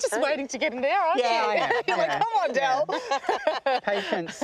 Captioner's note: laughs